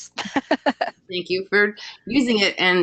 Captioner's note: laughs